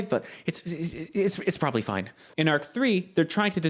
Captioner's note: stammers